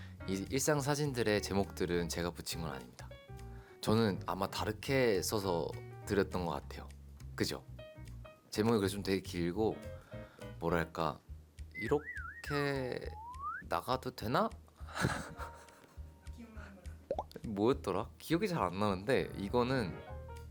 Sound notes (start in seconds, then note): 14.8 failed to hold back laughter